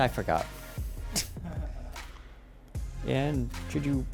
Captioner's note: giggles